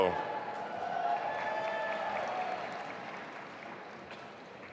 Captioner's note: audience applauding